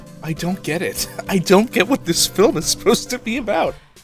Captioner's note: chuckle